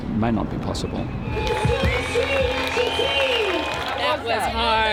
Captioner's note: people cheer